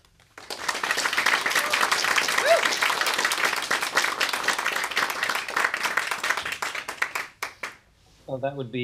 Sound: applause

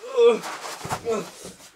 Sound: heavy fast breathing; grunt

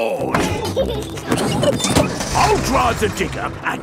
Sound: peppa and george laughing

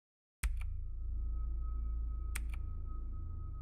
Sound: clicking

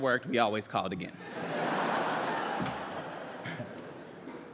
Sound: laughter

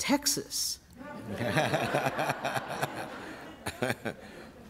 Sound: laughter

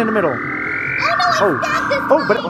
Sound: machine buzzing

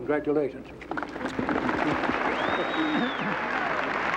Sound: applause

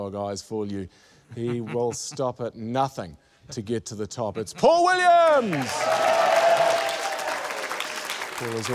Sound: cheering, applause

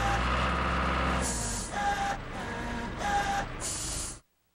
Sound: engine Running; whirring

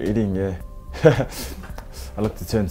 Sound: chuckles

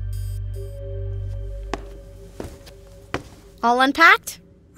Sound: walking

